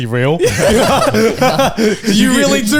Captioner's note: all laughing